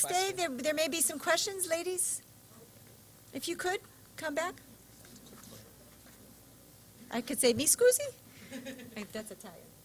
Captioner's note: foreign language